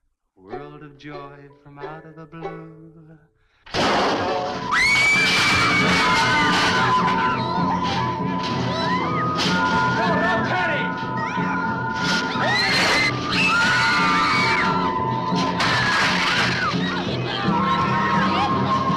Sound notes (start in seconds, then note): 3.7 crash booming; 4.8 girls screaming; 7.1 suspenseful music; 13.1 dramatic music; 13.1 girls screaming